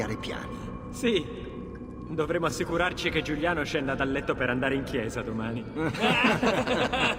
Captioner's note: he and the other laughs